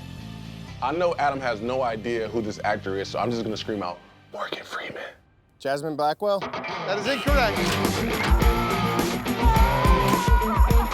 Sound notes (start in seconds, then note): 3.7 quietly; 7.9 shouting